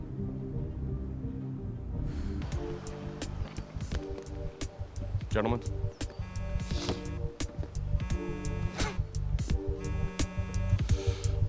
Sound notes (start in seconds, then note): 2.5 gentle music; 8.0 cellphone buzzing